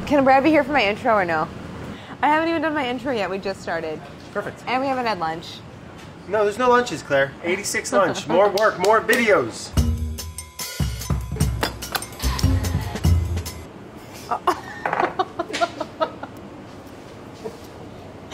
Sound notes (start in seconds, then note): 9.7 upbeat music; 14.2 laughs